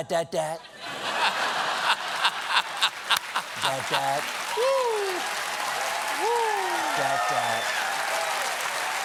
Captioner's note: laughter